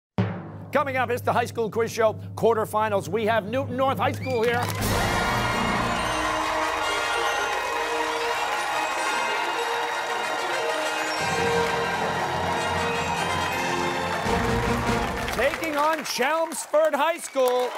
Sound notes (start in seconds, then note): 4.9 cheers and applause